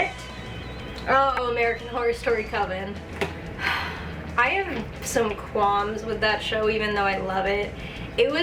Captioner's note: sigh